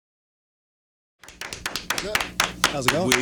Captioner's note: clapping